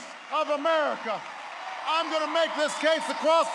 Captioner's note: applause